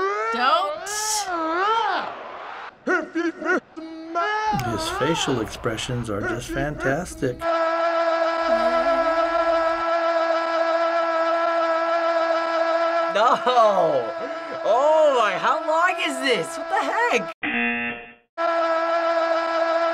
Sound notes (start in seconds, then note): 8.5 imitating The Rock; 17.4 buzzer